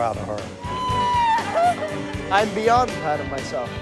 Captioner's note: laughter